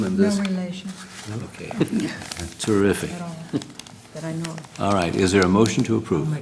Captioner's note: laugh